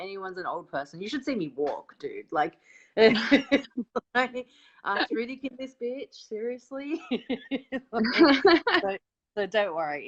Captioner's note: both laugh